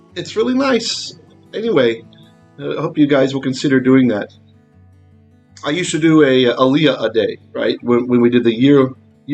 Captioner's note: Hebrew